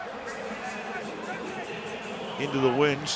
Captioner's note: pa announcement